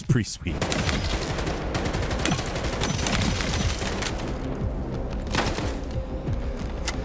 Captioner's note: tense dramatic music; guns blasting